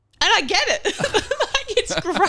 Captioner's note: laughing